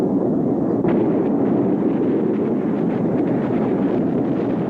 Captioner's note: artillery explode